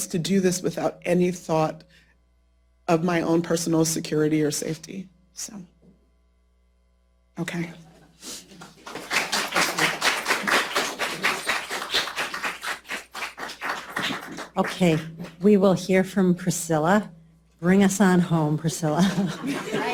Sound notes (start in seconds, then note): 8.6 applause